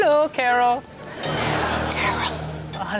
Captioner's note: creepy music; audience laughs